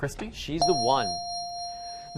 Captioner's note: dinging